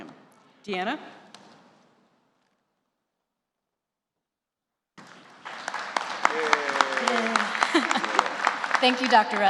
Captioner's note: applause